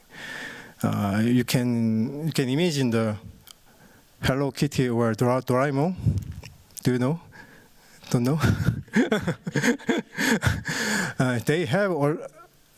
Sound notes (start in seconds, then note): 8.4 chuckles